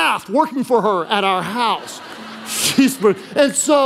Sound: congregation laughing

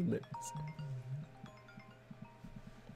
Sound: phone calls

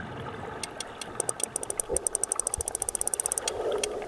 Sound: rapid clicking

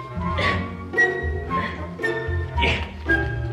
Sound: grunts

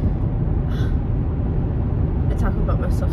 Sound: sigh

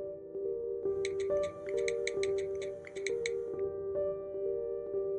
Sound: cellphone typing; dramatic music

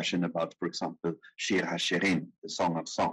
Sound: speaking in foreign language

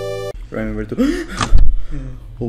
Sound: gasp

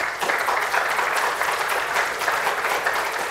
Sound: applause

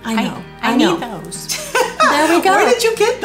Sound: laughing

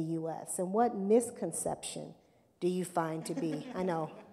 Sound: laughter

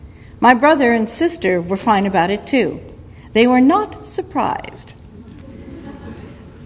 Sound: audience laughter

